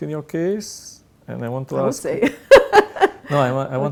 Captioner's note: laughs